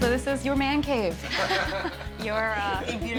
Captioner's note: laugh